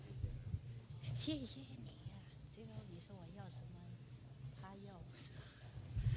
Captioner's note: speaking foreign language